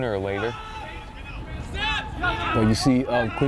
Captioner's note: players shouting